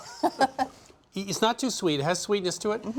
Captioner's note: laughing